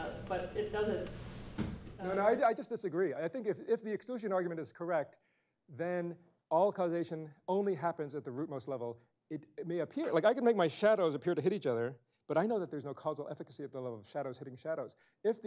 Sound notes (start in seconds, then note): none